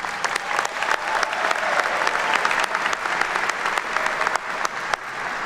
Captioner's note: attendees cheer and clap